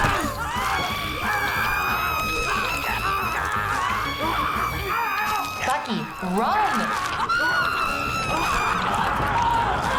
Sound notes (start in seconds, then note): 0.1 flesh squishing; 0.1 vivien screaming; 3.1 detective swan screaming; 6.4 flesh squishing; 7.5 vivien screaming